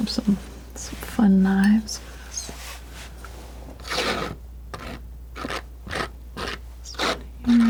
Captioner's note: scratching